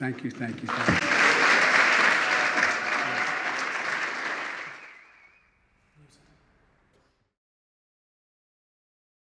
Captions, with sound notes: Thank you, thank you, thank you. (Applause.)